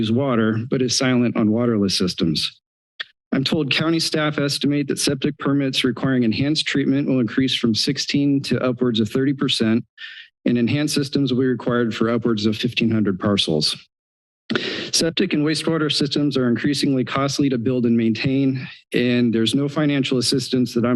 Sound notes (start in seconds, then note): 3.0 clicks tongue; 14.5 inhales